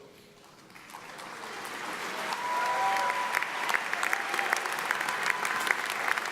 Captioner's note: audience applauds; audience cheers